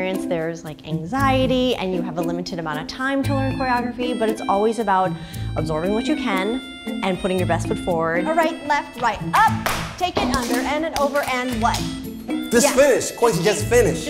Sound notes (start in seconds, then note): 9.4 clapping hands